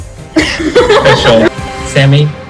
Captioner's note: laughter